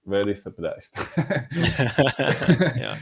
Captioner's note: laughing